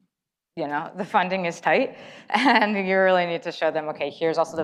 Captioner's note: laughs